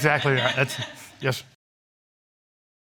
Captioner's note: stammering